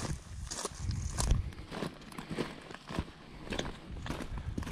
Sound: footsteps crunching

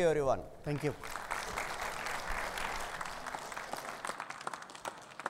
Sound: audience applauds

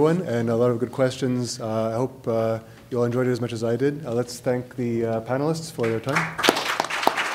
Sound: clapping

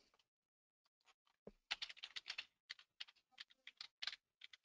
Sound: typing

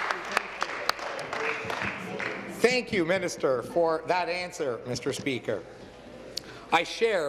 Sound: applause

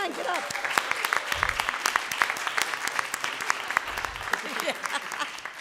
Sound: audience applauding

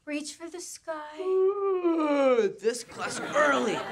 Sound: yawning

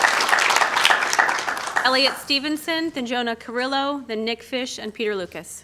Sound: applause

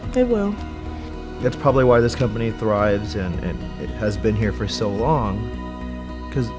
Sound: man speaking

